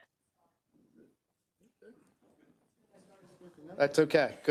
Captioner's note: councils members chattering